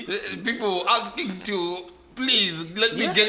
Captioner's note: bad Italian accent